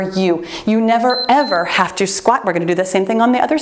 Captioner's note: timer beeps